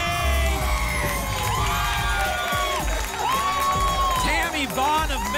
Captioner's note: applause and cheering